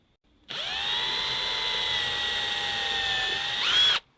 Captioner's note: drill whirs